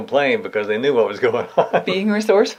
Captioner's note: laughs